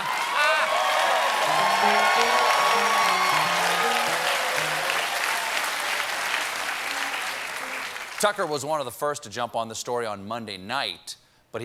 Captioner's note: applause; laughter